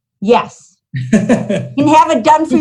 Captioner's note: laughing